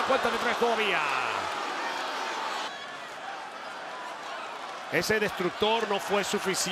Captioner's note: applause